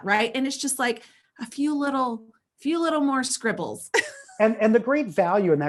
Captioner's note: laughs